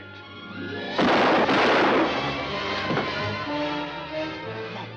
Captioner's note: gun banging